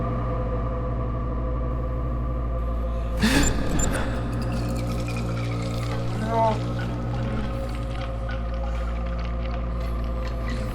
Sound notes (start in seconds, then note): 0.0 dark, ominous music; 4.2 man gasping; 6.3 creepy tingling